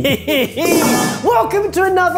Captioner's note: cloche clatters